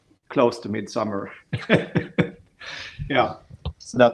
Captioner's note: laughing